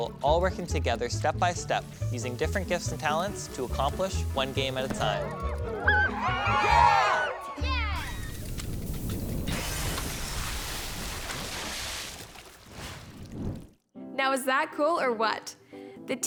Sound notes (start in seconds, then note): 5.0 children cheering; 9.3 machine rattling and popping